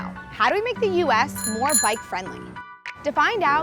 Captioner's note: bell ringing